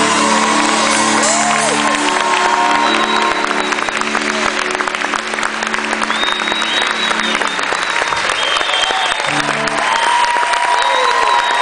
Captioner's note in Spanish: aplausos - ovacion